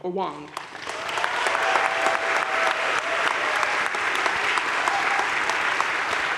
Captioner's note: audience cheering and applauding